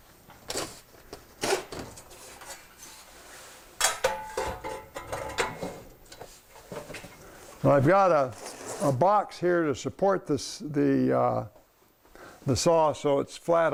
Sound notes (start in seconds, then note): 3.8 metal clanging